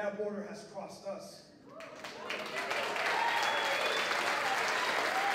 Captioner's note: applause